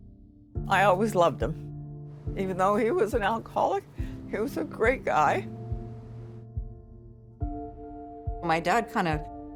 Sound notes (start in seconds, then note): 1.6 tearfully